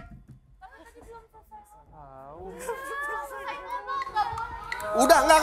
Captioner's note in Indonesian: whispering